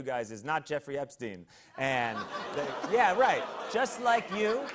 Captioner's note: audience ohs